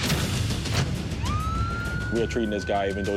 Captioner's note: siren blaring